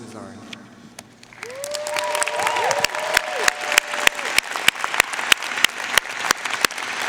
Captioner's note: audience cheering and applauding